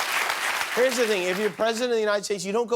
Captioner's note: cheers and applause